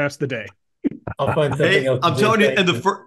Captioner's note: laugh